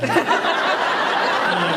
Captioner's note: laughs